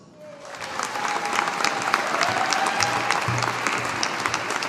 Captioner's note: audience applauding